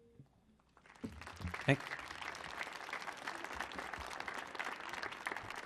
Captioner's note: audience clapping